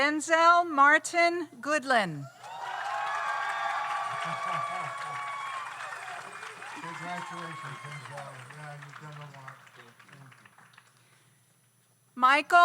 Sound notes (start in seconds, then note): 2.4 audience cheers; 2.4 audience applauds